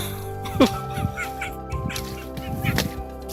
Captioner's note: crying